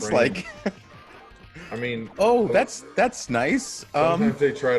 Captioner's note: laugh